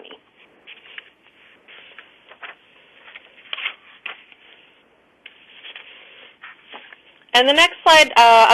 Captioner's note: pause